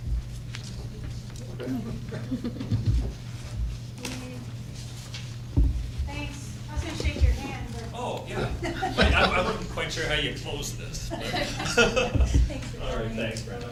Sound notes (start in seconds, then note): 1.7 laughter; 10.8 laughs